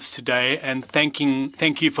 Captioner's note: speaking French